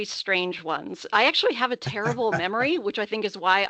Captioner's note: laughing